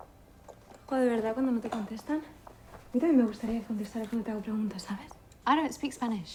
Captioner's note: speaking in foreign language